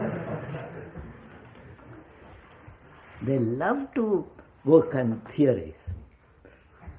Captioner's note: laughter